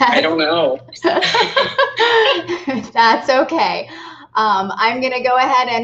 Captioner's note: laughing